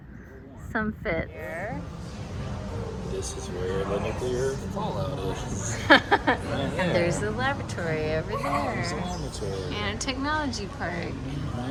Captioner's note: nervous laughter